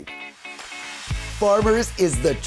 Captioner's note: slide whooshing